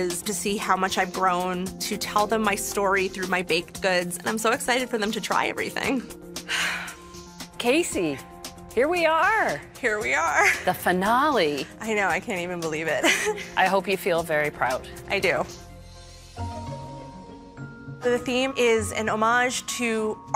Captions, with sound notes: to tell them my story through my baked goods. And I'm so excited for them to try everything. [sighs deeply] -Casey, here we are. -Here we are. The finale. I know. I can't even believe it. [chuckles] -I hope you feel very proud. -I do. So the theme is an homage to art and family.